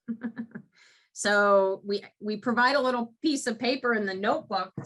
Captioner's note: chuckles